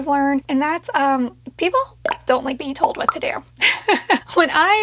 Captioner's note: laughs